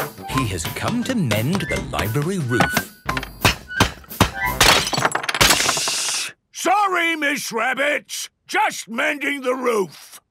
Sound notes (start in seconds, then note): 3.0 banging, crashing